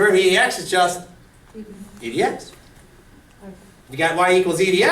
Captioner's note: voiceover